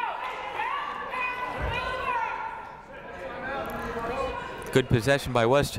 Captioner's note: people shouting in the crowd